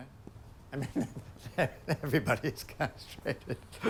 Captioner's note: chuckles